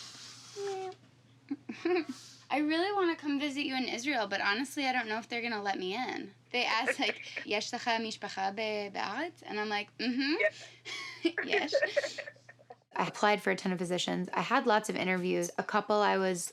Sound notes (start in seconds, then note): 1.5 chuckles; 7.8 speaking Hebrew